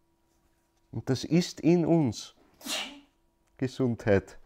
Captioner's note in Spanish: Alguien en el Alguien del público estornuda. Bendito sea